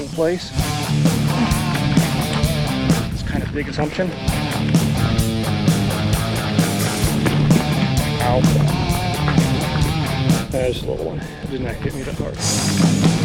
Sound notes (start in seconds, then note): 1.2 sighs; 4.3 footsteps thumping